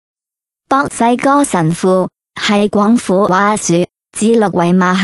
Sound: ภาษา กวางตุ้ง

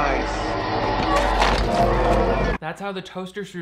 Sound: skull crushing

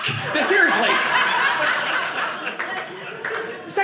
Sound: audience laughing

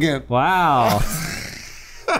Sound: gasps for air; laughter

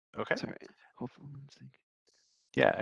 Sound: mumbles

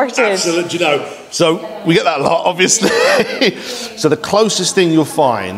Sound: laughs

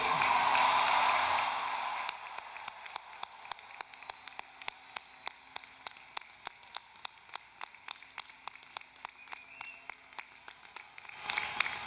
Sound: applause, Cheering

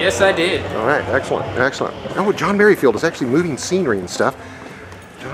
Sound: noises. backstage commotion

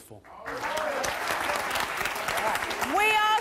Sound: audience applause

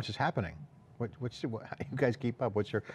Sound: stutters and laughs

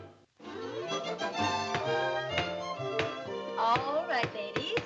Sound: gavel banging

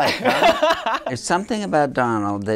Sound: laughing

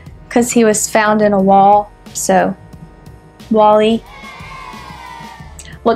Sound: boos

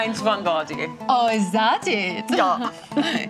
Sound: imitates German accent

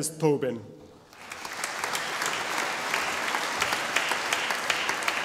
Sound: audience applauding

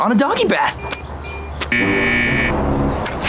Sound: buzzing

